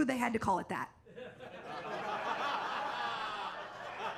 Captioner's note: audience laughs